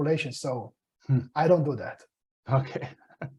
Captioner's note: laughs; chuckles